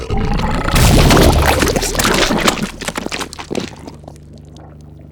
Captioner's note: explosion bubbles